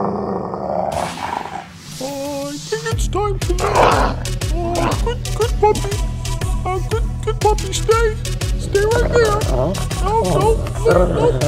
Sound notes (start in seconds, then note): 0.0 puppy growls; 3.5 puppy Growls